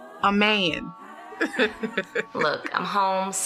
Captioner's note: laugh